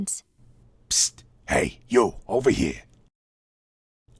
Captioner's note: whispering